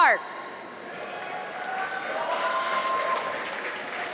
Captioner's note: applause